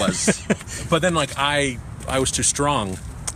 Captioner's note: laughs